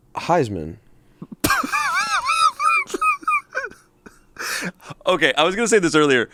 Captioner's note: laughs